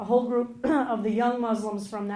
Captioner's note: clears throat